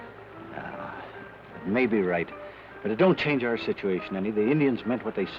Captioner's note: sighs